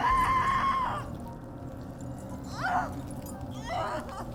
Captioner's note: Heather screaming